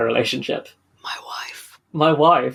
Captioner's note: whispers